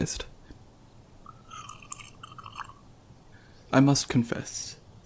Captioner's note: tea sipping